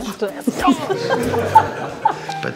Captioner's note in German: Lachen